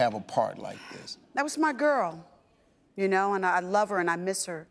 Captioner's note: sighs